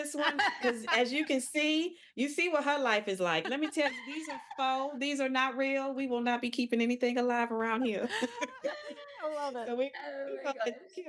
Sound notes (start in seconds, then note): 8.0 laughing